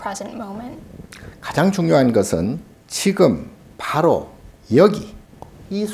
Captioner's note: speaking Korean